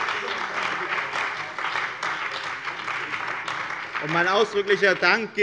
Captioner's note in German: Beifall bei der CDU und dem BÜNDNIS 90/DIE GRÜNEN